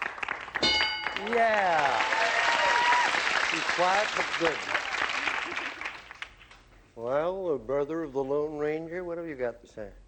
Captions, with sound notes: [ding] Yeah. She's quiet, but good. [applause] Well, brother of the Lone Ranger, what have you got to say?